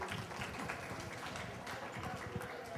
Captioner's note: applause